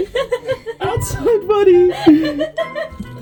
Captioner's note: laughs